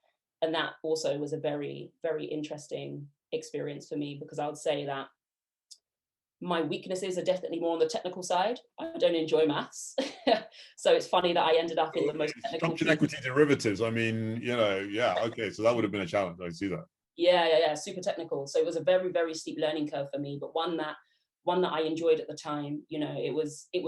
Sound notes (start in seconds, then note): 10.0 laughs